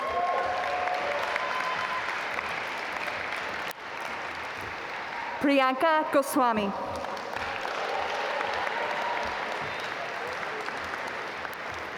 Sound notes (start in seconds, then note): 0.0 audience applaud; 6.8 audience applaud